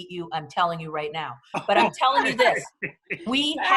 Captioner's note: laughter